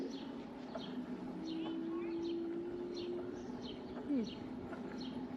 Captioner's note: birds chirping